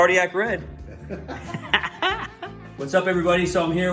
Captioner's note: laughing